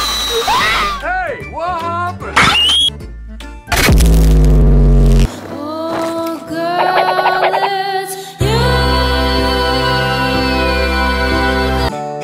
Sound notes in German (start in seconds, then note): 2.4 screams